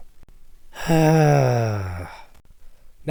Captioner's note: long sigh